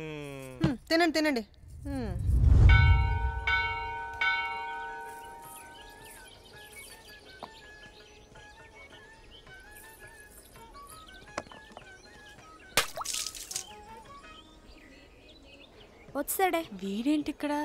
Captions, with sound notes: Eat food. (Temple bell rings) He's here. Why did he come here?